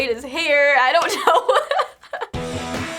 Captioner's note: laughs